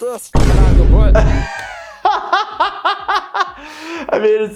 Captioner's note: laughing